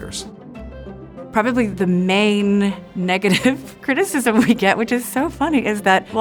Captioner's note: laughing